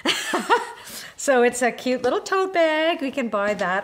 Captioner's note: laughs